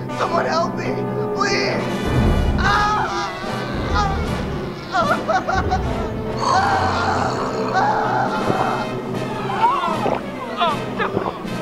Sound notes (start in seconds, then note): 2.5 screams in agony; 6.3 hungry noises; 8.3 swallowing sounds